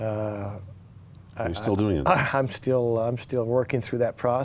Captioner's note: chuckles